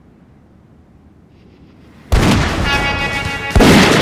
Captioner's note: gunfire